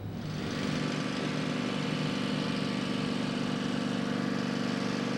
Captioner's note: suspenseful music; mower engine whirring